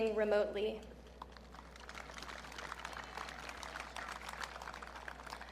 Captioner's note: audience clapping